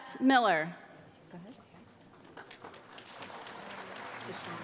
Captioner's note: applause